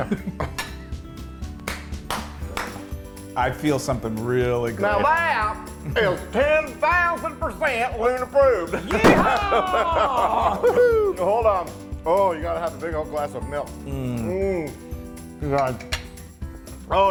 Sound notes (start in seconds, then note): 0.0 laugh; 1.6 applause; 9.2 laugh